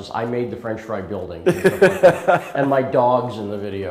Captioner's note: laughter